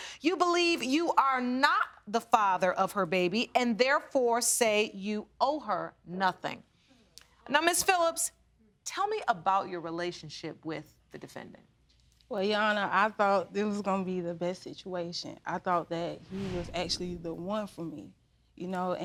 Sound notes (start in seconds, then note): none